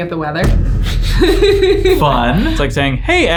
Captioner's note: both laugh